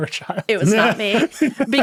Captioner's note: laughing